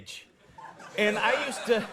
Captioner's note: audience laughs